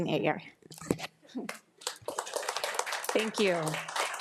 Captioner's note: attendees applauding